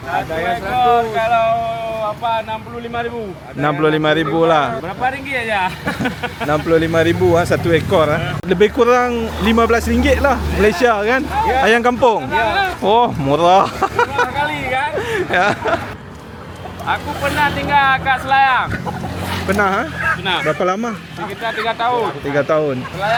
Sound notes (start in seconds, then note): 6.2 laugh; 13.9 laugh